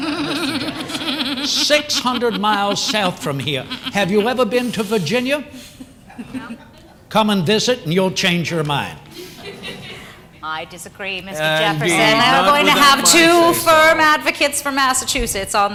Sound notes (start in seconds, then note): 0.0 laughter; 9.1 laughter